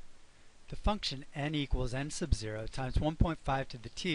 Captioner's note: voiceover